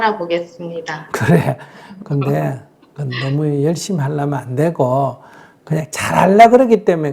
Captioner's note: 질문자 웃음